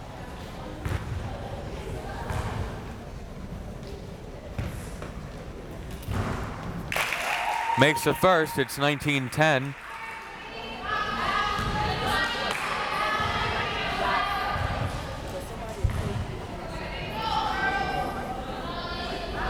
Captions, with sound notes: (crowd members talking) Makes the first. It's 19-10. (crowd members shouting)